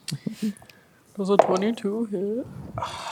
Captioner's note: sarcastically; sighs